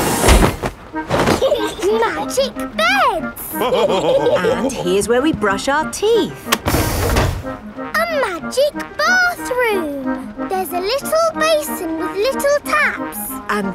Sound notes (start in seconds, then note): 1.3 laughing; 3.5 all laughing